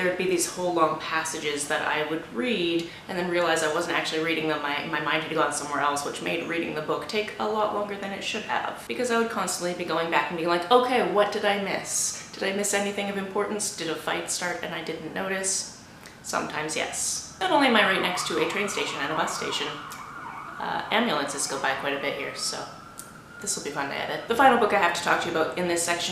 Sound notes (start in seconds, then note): 16.4 increased noise from outside